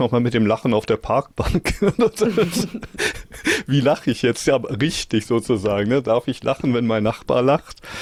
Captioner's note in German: gelächter